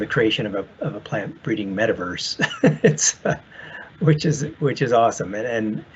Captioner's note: laughs